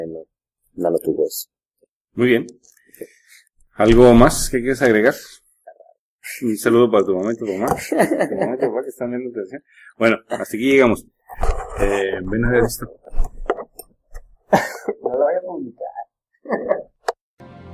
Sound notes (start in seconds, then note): 7.4 laughs